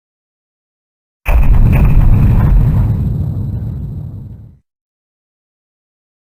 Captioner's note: Majoras Mask new day sound effect